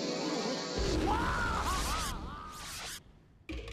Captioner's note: Sylvester yelling